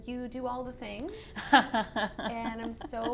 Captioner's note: laughs